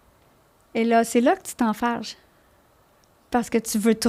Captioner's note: in french